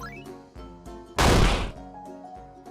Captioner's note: bang